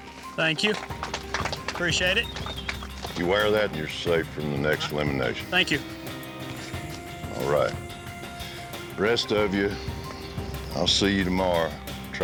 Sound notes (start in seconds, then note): 0.5 applause